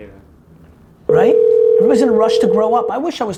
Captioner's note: phone ringing